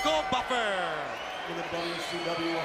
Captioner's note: bell ringing